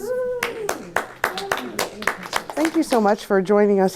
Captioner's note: audience applauding